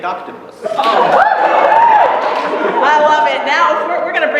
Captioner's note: cheering